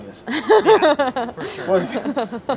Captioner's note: laughs